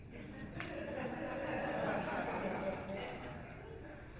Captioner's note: audience laughing